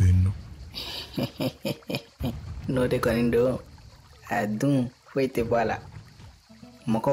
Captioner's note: laughter